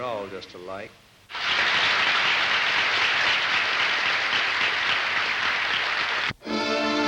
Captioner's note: clapping